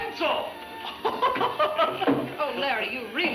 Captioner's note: speaking in Spanish